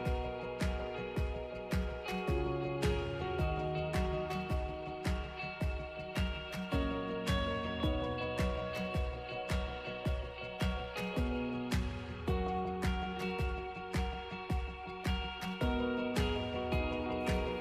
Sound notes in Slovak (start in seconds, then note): 5.0 Potlesk